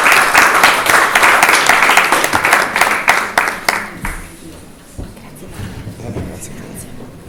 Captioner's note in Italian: Applauso